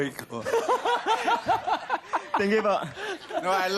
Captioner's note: robi laughing